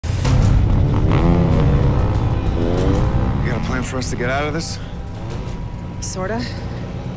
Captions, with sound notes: [engines rumbling] You got a plan for us to get out of this? Sorta.